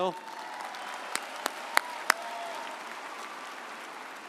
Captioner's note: audience applauding